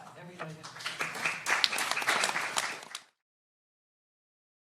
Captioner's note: audience applauding